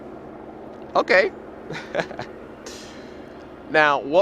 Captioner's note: laughs